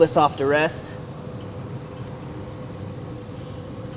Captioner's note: sizzling